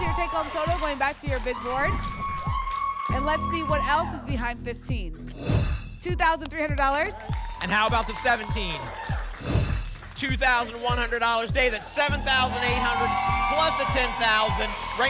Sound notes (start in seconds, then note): 5.3 whoosh; 9.4 whoosh